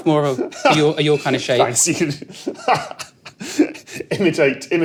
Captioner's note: giggles